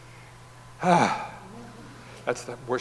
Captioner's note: sighs